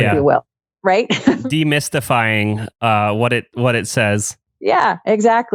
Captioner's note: laughs